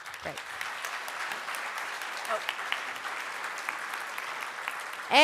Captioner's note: applause